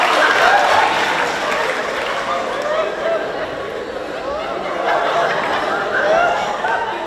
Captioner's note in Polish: Aplauz